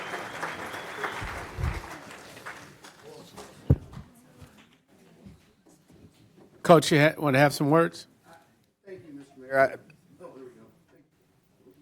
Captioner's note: applause